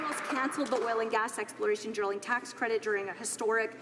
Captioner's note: some Applause